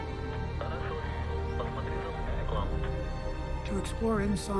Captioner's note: Dmitry speaking in foreign language; Bob speaking in foreign language